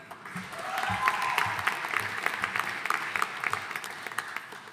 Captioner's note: audience applauding